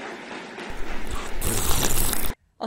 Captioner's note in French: sluuurp